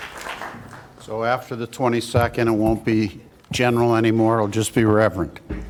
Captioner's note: applause